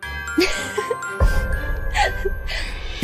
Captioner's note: laughter